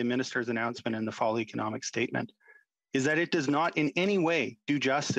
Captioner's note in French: voix de l'interprète